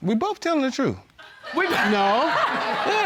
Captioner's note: laughter